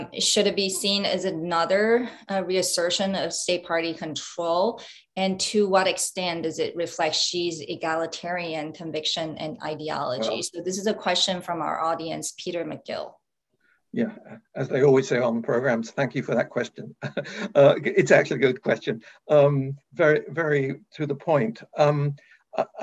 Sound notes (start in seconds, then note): 16.8 chuckles